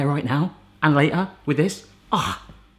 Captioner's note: sighs